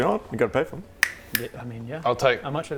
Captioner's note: snap